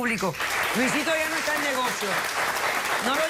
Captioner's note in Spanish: Aplausos